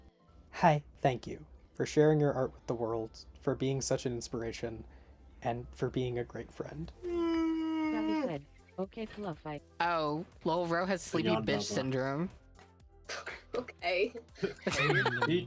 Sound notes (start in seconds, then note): 7.0 yawns; 14.3 laughs